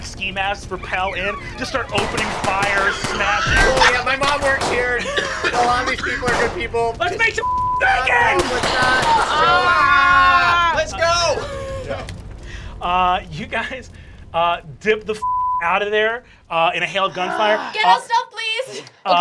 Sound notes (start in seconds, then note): 7.4 beep; 15.2 beep